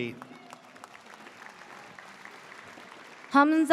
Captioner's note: audience cheers